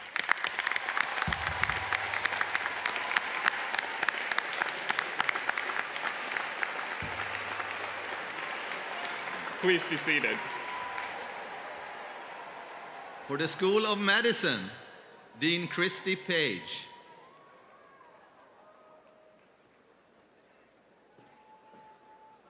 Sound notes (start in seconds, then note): 3.7 applause